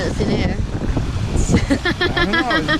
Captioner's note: laughing